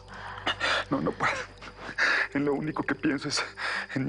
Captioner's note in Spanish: Solloza